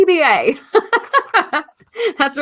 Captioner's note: laughs